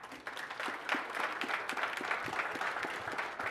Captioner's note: applause